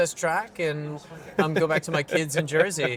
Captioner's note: laughing